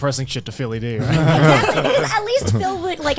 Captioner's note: all laughing